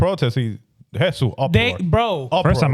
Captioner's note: speaking In Foreign Language